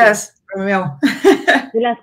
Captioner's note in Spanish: ríe